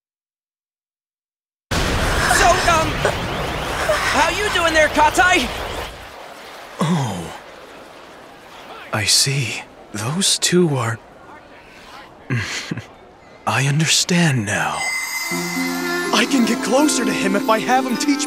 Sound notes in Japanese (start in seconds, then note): 2.3 慌てる声